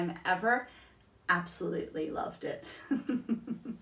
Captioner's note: laughs